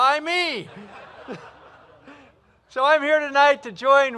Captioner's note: laughter